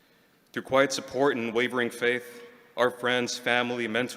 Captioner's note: none